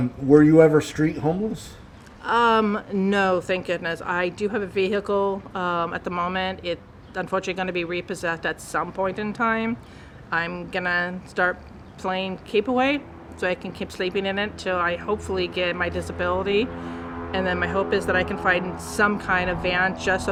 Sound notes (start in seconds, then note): 15.7 airplane overhead